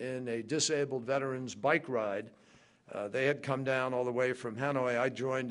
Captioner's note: none